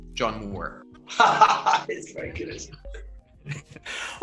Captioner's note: laughs